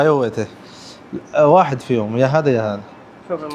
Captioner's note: Arabic